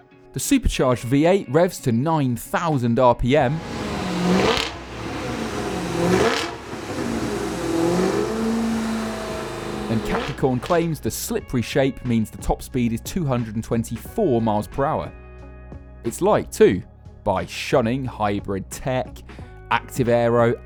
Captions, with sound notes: The supercharged V8 revs to 9,000 rpm. (ENGINE REVS) and Capricorn claims the slippery shape means the top speed is 224mph. It's light, too, by shunning hybrid tech, active aero,